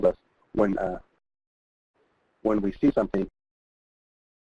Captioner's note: audio drops out